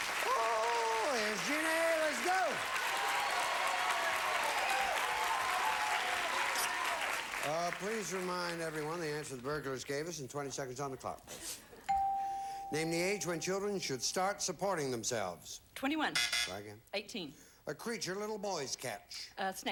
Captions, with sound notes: Oh! Here's Jeannie. Let's go. [audience applauding] Uh, please remind everyone the answers burglars gave us, and 20 seconds on the clock, please. Name the age when children should start supporting themselves. Twenty-one. [buzzer sounds] Try again. Eighteen. A creature little boys catch.